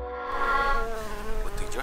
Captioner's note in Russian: жужжание шмеля